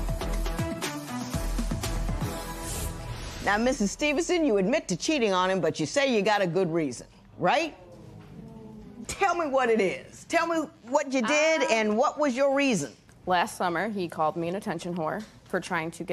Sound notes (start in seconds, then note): 8.0 spectators murmur